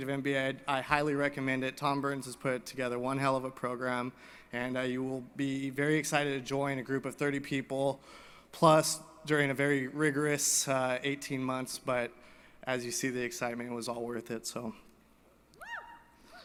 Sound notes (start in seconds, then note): none